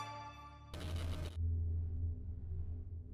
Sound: computer glitches

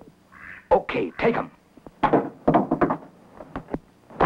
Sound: gunshots

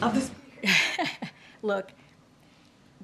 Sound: laughs

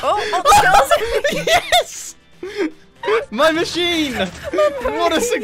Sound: mic peaking laughter

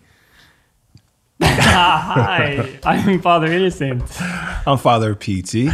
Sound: laughing

